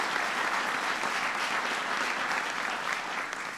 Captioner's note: applause